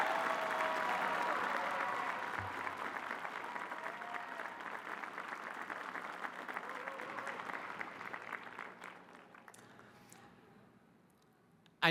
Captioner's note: cheers and applause